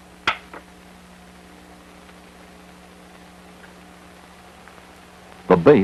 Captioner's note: static